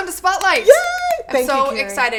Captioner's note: clapping